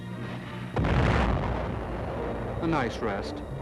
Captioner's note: booming